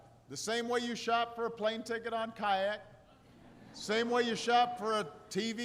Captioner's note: laughter